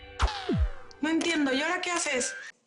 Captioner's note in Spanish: Sonido del obturador